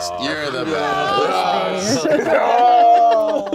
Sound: group groans; group laughs

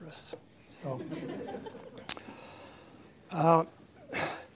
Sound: laughter

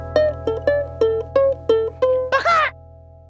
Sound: laughs

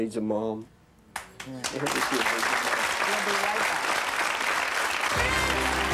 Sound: applause; captivating music

